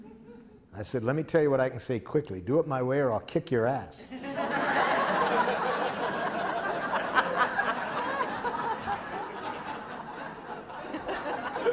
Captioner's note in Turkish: Gülüşmeler